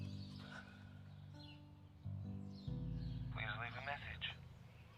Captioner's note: Ava inhales; Ava exhales